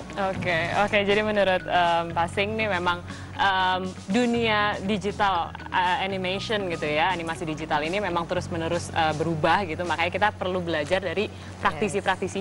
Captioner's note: non-english speech